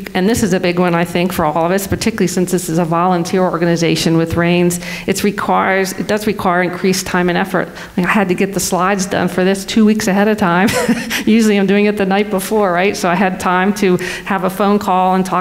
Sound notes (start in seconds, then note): 10.6 laughs